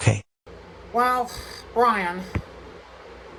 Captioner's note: sighs